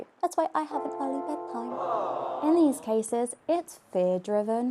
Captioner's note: audience 'aww's